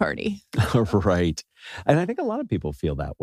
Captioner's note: laugh